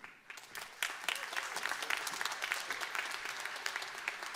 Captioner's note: applause